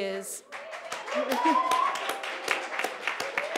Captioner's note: applause